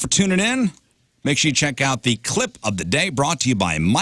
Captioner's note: none